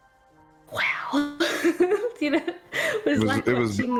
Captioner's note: excited giggles